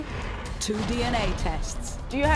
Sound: voiceover

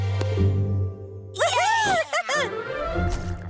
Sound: cheering, giggling

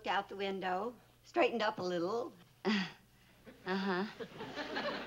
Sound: chuckles

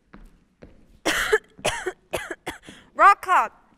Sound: coughing

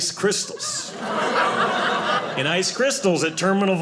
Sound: audience laughing

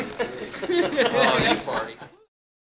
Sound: laughter

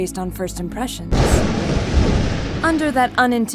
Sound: thunder clap

